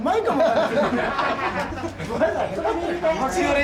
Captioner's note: laughter